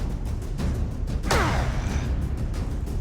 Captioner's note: grunt